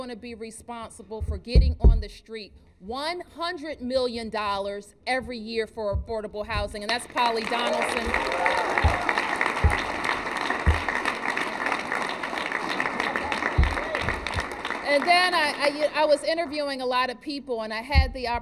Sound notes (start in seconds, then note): 7.6 applause